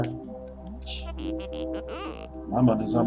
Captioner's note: laughs softly